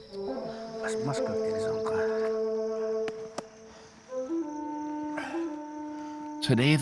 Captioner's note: chatter in Hopi